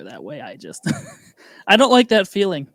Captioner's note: laughing